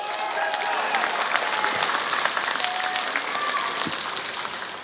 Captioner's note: applause